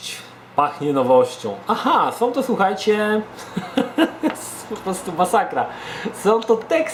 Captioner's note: chuckles